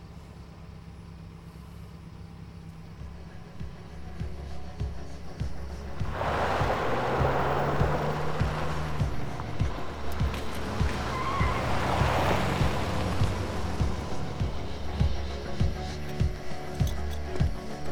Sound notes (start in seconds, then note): 3.7 stirring music; 6.5 engine purring; 11.5 stirring music; 11.5 tires screeching